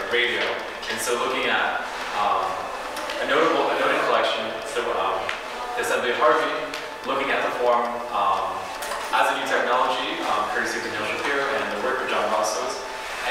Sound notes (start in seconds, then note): none